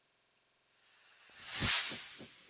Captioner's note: sound effect